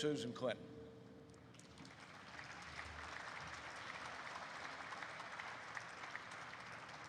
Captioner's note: applause erupts